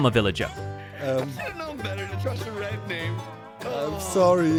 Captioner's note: sighs